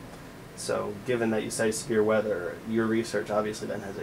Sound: voiceover

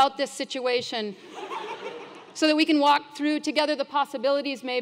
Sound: laugh

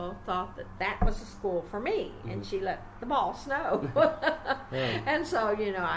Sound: taps table; laughs

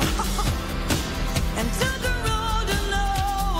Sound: laughs

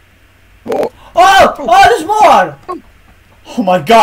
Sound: saying/screaming "Oh, oh"

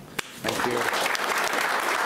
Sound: audience applauds

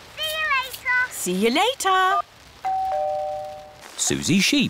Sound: doorbell rings

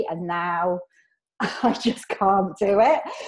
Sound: laughs

